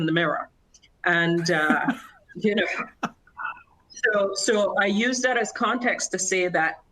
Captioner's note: laughter